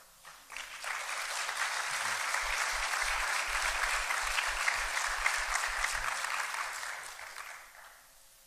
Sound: applause

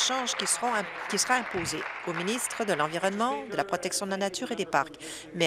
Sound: applause

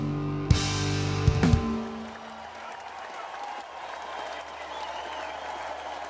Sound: audience cheers and applauds

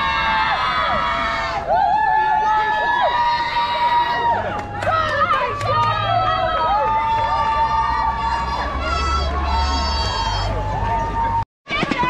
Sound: very loud cheering

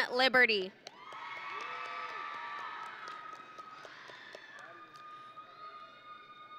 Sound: audience and graduates cheering

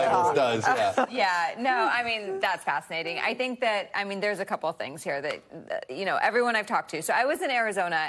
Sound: laughter

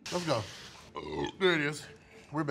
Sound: man burping

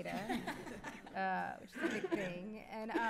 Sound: laughter

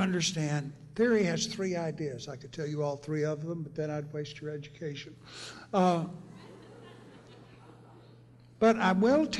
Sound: laughter

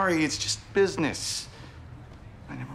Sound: none

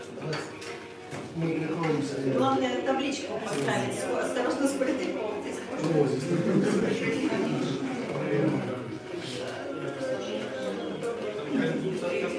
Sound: guests communicate and drink champagne

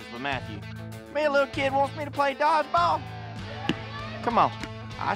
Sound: claps hands

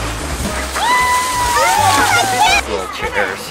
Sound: yelling

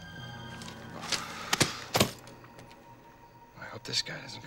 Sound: <i> sighs</i>

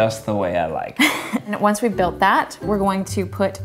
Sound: laughing

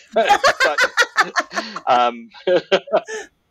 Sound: laughter

